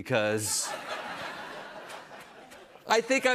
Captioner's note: audience laughs